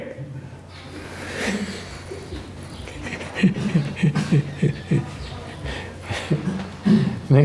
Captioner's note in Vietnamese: laughter